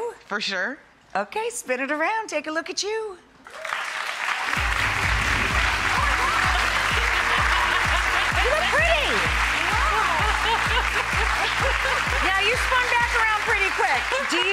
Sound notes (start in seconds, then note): 3.6 clapping; 7.5 laughing